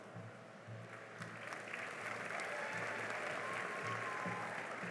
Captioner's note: cheering and applause